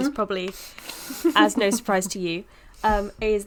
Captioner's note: quiet laughing